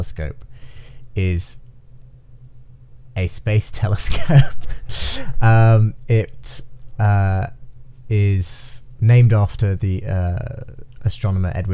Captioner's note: laughing